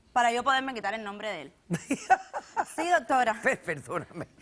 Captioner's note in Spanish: Risas